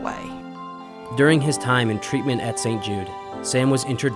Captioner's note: voiceover